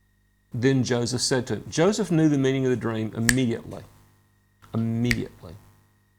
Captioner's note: snaps fingers